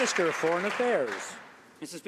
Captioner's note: some Applause